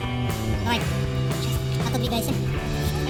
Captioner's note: say in a funny voice